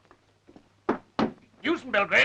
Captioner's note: floor pattering